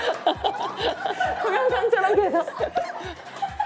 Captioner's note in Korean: 민망함에 터져버린 웃음